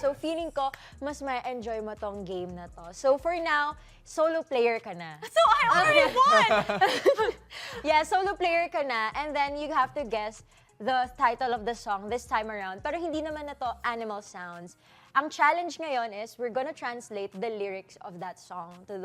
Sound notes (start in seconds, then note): 5.4 laughs